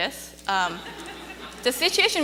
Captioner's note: audience laughing